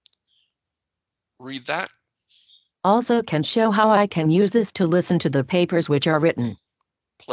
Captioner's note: computer Voice